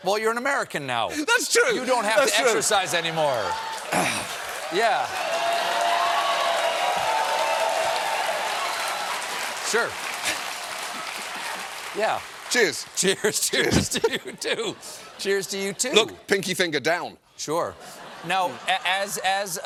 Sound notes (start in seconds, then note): 5.5 cheers and applause